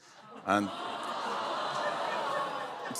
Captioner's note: audience groans